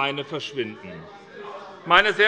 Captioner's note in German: Zurufe von der CDU